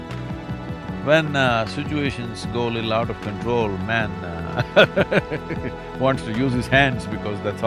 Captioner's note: laughs